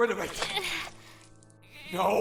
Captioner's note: struggling